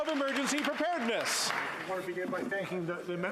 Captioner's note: applause